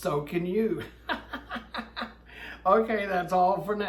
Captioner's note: laughs